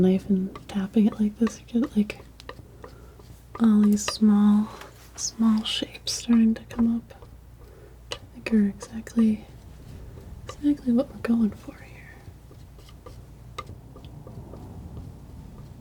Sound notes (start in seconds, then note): 12.2 tapping